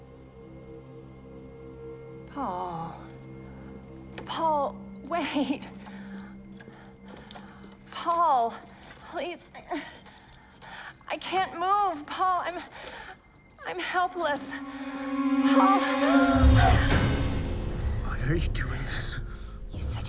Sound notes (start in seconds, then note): 0.2 suspenseful music; 10.0 moans; 16.7 menacing music